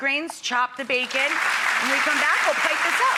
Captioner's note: audience applauds